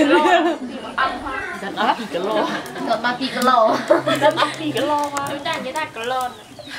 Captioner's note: talking and laughing together